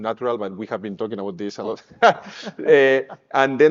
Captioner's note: chuckles